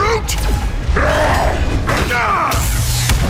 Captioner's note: grunts